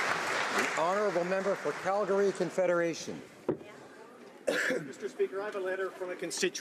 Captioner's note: applause